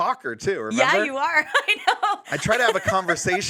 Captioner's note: laughs